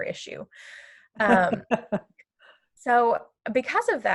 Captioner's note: laughter